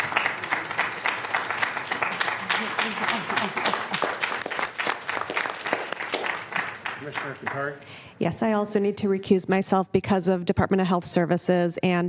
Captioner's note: applause